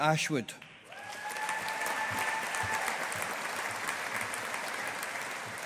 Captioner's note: audience applauding